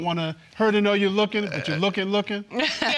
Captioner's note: laughing